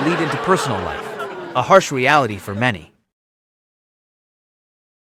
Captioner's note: audience boos